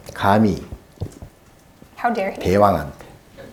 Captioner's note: speaking Korean